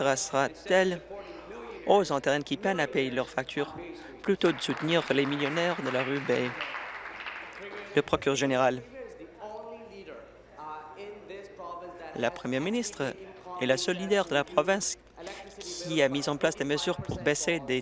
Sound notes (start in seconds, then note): 7.7 applause